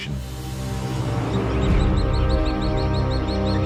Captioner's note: birds chirping